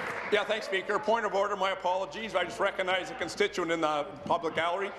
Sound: applause

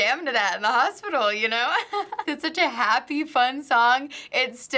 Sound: chuckles

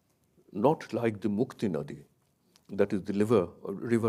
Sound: speaks in a foreign language

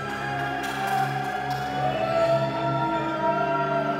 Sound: cheering. Clapping

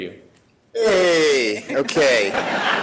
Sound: laughter

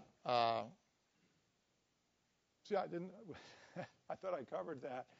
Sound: laugh

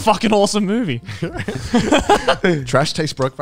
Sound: everyone laughs

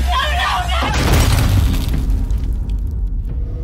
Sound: electric crushing sound; sinister music

